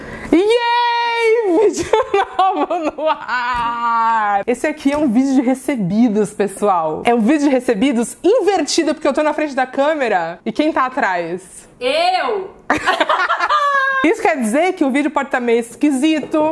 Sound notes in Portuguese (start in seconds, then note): 12.7 risos